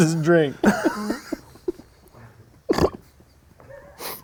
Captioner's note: laughing